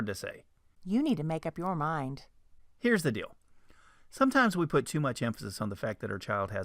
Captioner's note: man's voice